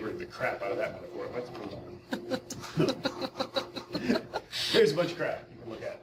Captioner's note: audience laughing